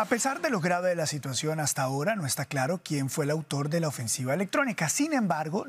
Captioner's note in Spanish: HABLA EN INGLéS